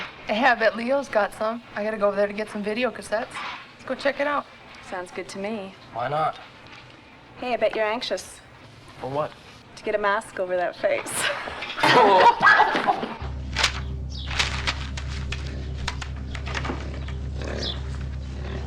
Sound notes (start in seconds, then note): 11.0 laughing; 16.4 pig snorting; 16.5 dark ambient music